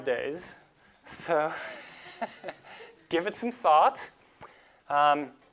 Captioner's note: laughs